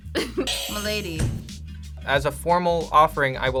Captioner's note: React laughs; buzzer rings